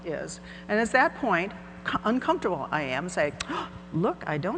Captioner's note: gasps